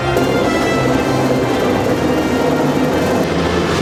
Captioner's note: loud rumbling